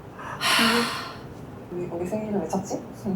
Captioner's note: deep sigh